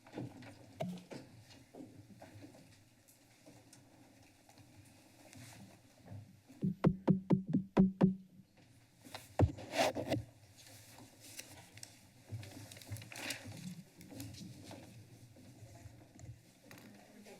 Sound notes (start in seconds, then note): 6.6 tapping on microphone